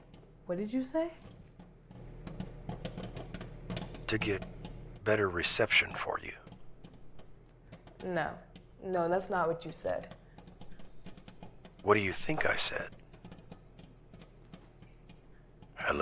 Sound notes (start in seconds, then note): 2.7 kernels popping